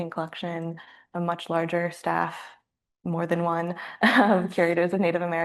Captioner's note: chuckles